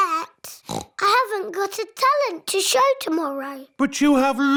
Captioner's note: oinks